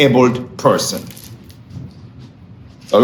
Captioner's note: pages rustling